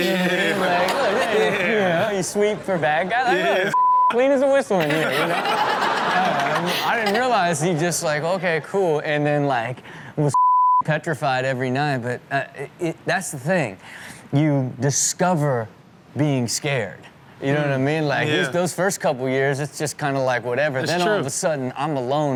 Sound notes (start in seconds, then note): 0.0 audience laughs; 3.7 beep; 4.8 audience and hosts laugh